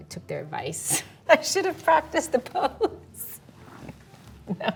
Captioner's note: laughing